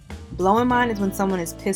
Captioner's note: voiceover